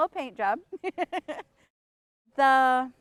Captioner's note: laughs